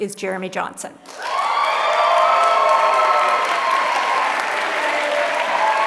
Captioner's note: applause